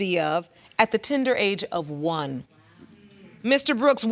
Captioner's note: audience murmuring